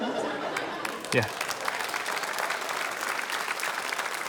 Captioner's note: applause